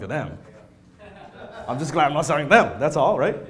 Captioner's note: laughter